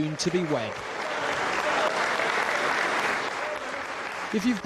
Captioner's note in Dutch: publiek applaudisseert